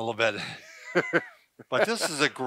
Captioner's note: laughs